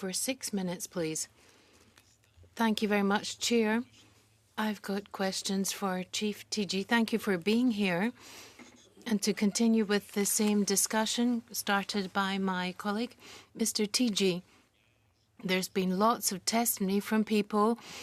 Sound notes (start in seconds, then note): 10.7 speaking French